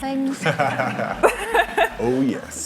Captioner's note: laughing